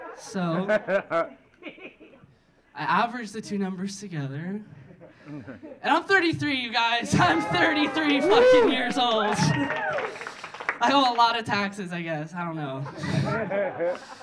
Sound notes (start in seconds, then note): 0.0 audience laughing; 9.3 audience cheering; 9.3 audience clapping; 12.8 audience laughing